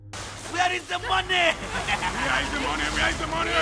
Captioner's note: ominous music; laughing